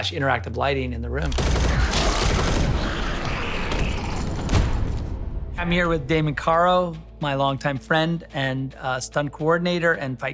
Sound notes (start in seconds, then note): 1.3 gunshots firing; 1.7 zombies snarling